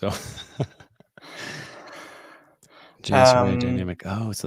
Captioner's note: chuckles